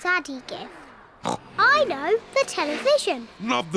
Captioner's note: oinks